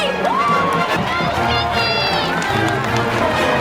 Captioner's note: crowd cheering; band playing